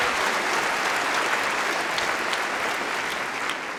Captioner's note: cheering & Applause